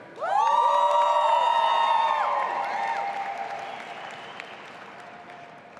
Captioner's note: audience applauding and cheering